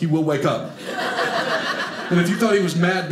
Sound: audience laughing

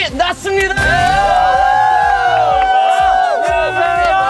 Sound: cheering

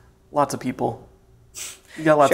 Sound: laughs

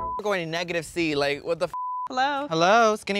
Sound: beep; beep

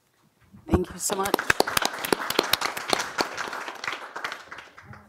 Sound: applause

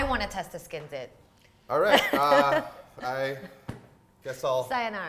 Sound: laughs

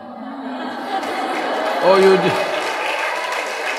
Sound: laughter/Applause

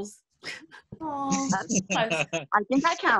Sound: laughter

